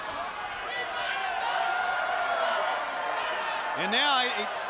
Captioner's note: crowd chatter